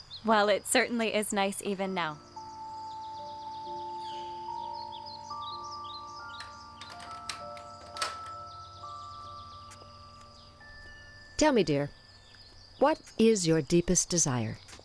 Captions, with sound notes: Well, it certainly is nice even now. (soft chime melody) (gate unlatches) Tell me dear. What is your deepest desire?